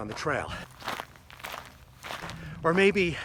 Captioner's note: boots crunching